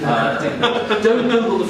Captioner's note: audience laughing